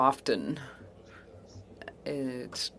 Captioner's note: speaking French